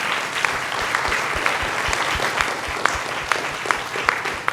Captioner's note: audience applauds